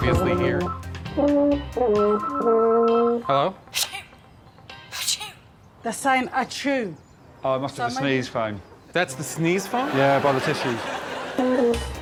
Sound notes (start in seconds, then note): 2.5 phone ringing; 3.8 person sneezes twice